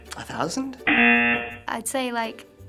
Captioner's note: rejection buzzer